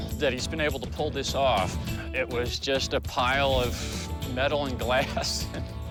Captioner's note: laughing